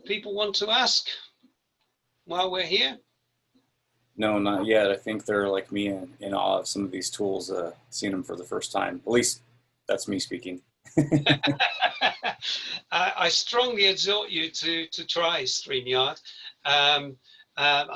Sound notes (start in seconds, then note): 10.9 laughing